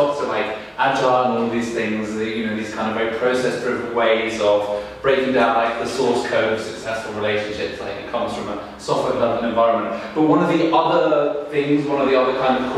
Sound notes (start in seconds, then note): none